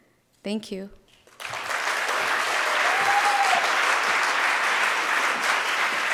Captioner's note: audience cheering and applauding